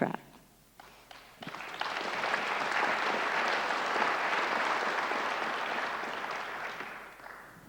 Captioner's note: applause